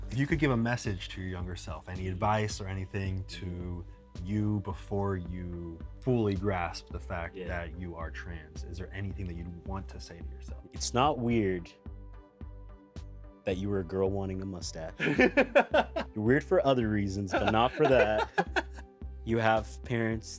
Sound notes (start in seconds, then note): 15.0 laughs; 17.3 laughs